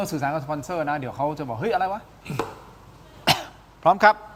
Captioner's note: clears throat